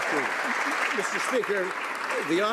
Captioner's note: some Applause